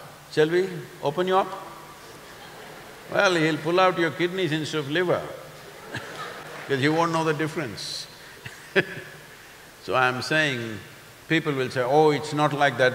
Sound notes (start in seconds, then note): 1.8 few laugh; 8.2 laughs